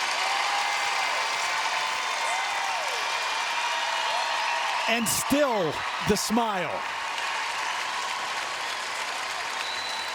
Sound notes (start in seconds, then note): 4.7 cheers and applause